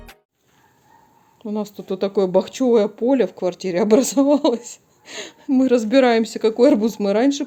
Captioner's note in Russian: смех